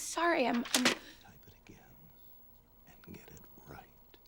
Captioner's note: whispering